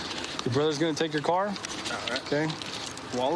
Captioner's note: none